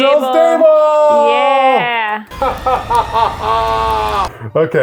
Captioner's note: laughing